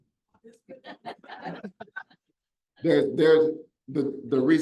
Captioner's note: audience laughs